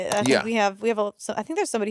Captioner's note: mouse clicking